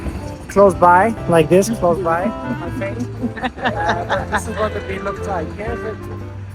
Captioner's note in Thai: เสียงหัวเราะ